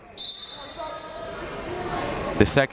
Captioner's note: whistle tweeting